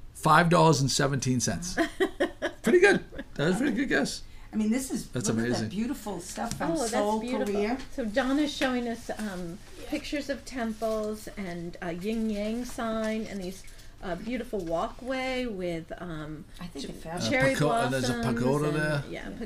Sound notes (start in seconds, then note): 1.8 laughing; 5.7 voiceover; 8.1 voiceover; 18.3 voiceover